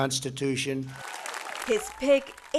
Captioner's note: crowd applauding